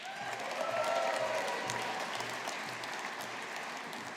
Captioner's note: audience applauding